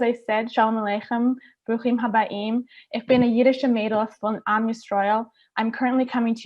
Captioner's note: speaking Hebrew